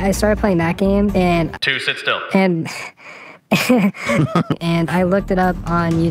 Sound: laughs

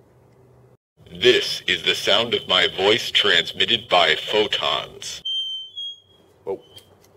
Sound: high-pitched feedback noise

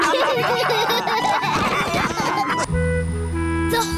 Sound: all laughing

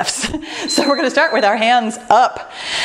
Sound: timer beeps

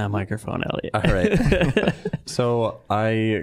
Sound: all chuckling

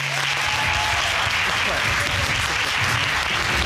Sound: audience applauding

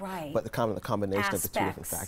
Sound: speaking foreign language

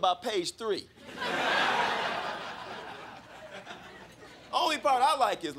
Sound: crowd laughing

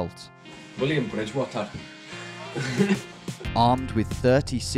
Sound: Scottish accent; softly chuckles

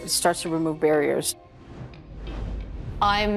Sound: logo whooshes

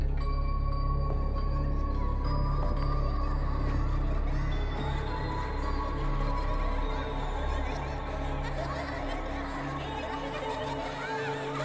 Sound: ghostly kids laughter gets louder

